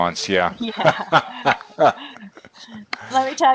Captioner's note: laughter